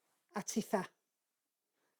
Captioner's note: in Welsh